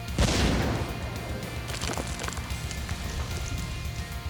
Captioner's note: gun shot, explosion; explosions